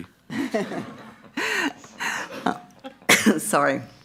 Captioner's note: all laughing